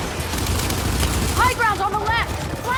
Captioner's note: weapon firing